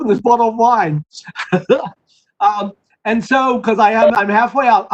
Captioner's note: laughter